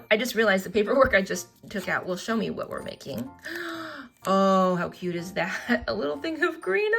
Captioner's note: gasps